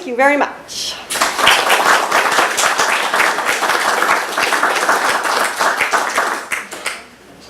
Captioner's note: applause